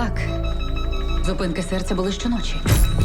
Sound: rapid beeping

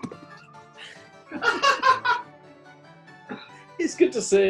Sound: laughing

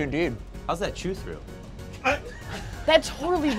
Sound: group laughs

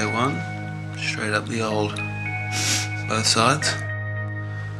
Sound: sniffs

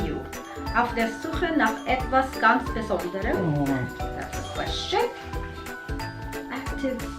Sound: foreign language

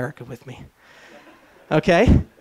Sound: laughter

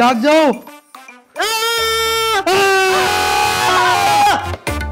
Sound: shouting

